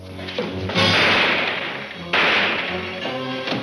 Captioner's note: gun firing aggressively; dramatic music